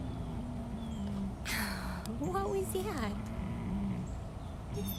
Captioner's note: graoning